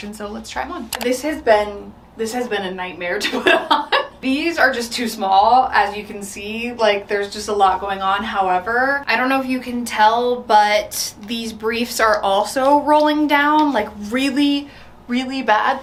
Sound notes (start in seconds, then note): 3.3 laughs